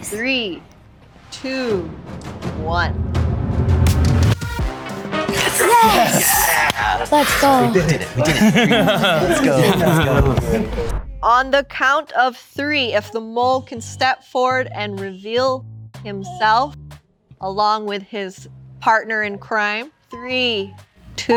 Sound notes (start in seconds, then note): 1.7 tense music; 8.8 person chuckles; 10.6 group laughing